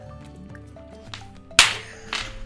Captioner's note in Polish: clap